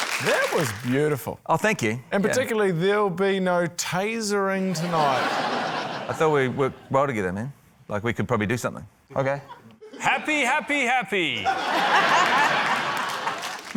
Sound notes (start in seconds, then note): 4.7 laughter; 11.4 laughter, scattered applause